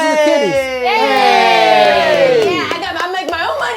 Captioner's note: overlapping chatter; collective cheering